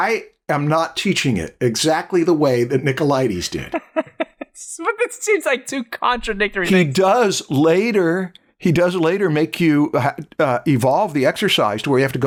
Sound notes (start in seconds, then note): 3.6 laughter